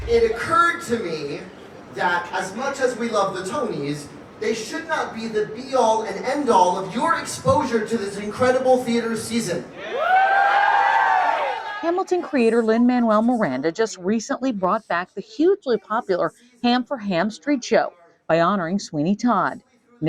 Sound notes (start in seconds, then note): 9.7 crowd cheers